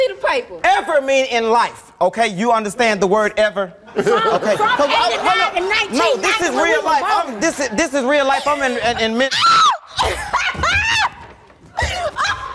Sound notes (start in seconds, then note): 3.9 audience laughing; 8.4 laughing